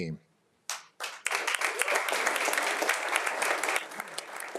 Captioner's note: everyone applauding